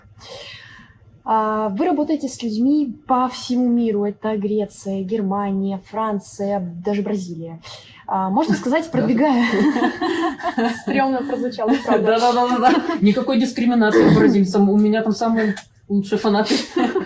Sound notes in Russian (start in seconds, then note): 9.0 Смех; 9.5 Неловкий смех